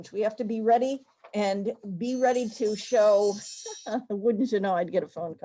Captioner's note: phone rings